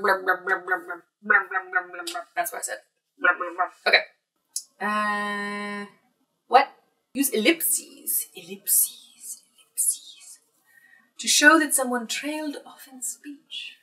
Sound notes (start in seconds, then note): 6.2 silly voice; 9.8 British accent